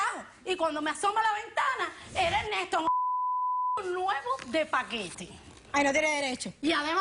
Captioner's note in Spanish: Bip